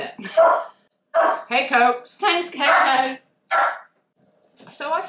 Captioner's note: COCO barks